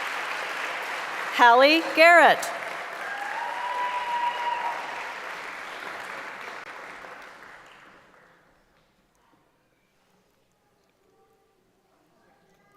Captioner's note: applause; cheering